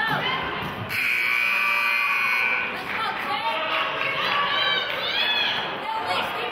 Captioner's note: buzzer honks